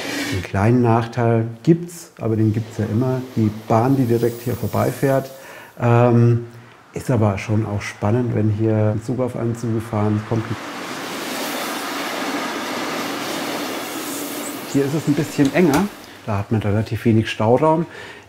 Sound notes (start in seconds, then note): 11.1 soft hissing